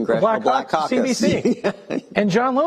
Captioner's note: laughing